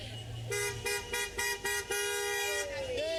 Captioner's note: car horns